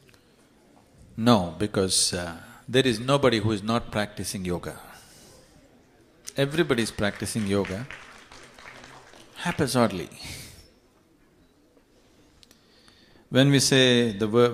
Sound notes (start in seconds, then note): 6.4 applause